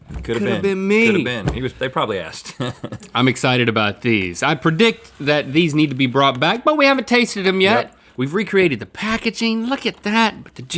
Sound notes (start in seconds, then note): 2.4 chuckles